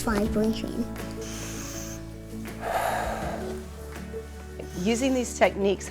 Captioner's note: inhales; exhales